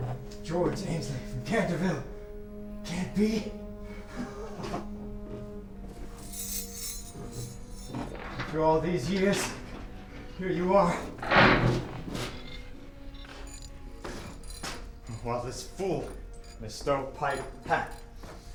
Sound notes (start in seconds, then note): 3.6 laughs